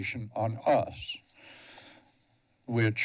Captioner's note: pause